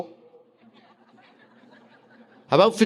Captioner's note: audience laughing